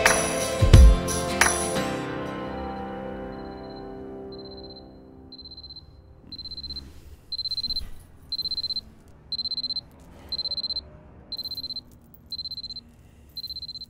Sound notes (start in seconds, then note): 4.4 alarm beeping; 10.0 exhales; 11.4 handcuffs clink